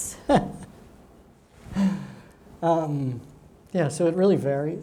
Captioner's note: chuckles